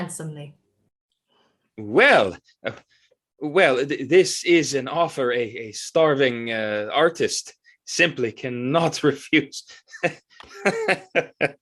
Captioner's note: shakes head and laughs